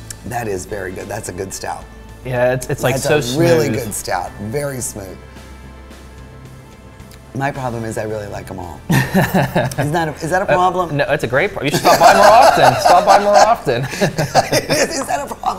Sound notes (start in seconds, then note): 9.1 laughs; 13.7 laughs